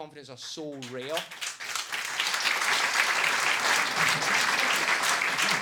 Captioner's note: audience clapping